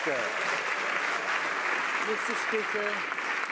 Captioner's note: some Applause